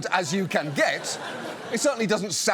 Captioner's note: audience laughs